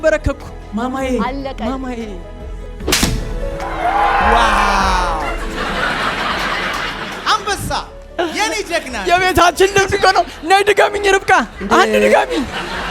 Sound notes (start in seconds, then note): 3.6 scream; 5.2 laughter